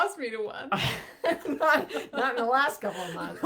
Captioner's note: laughs